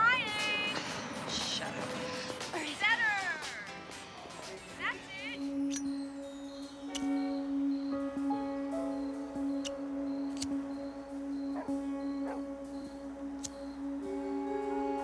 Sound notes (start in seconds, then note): 5.2 suspenseful music; 11.3 dog barking